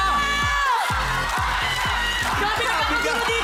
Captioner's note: crowd cheering, applauding